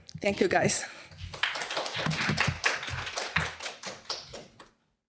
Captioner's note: audience clapping